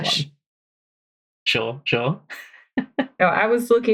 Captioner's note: laughs